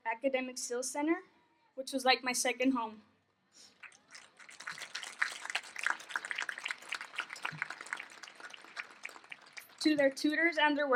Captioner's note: applause